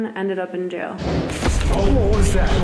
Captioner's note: banging